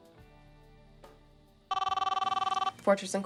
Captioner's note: phone rings